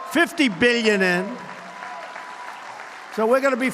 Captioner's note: applause